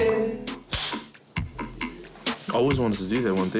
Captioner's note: clapperboard clapping